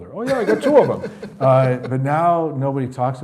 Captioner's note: laughing